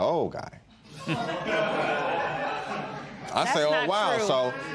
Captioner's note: laughter